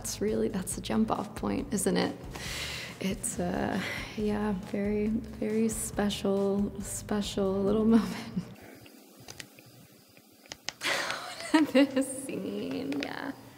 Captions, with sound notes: That's the jump off point. Isn't it? It's... Yeah. Very special little moment. (laughs) (Natalia laughs) This scene! Yeah.